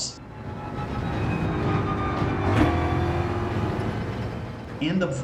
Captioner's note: engines revving, tyres grip, racing sounds